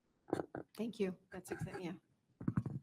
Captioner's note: speaks faintly